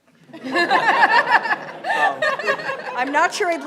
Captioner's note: laughing